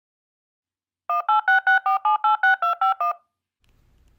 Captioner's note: phone buttons dialing